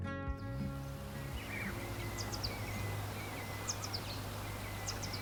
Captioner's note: birds chirping